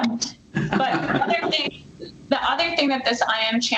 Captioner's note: chuckles